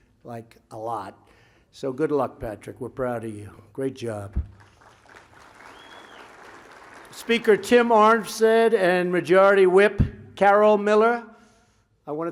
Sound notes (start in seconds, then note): 4.5 applause